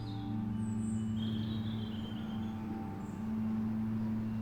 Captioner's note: birds chirping